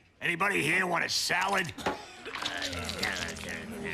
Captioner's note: all groaning